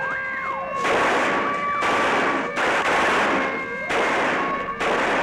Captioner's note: weapon firing continues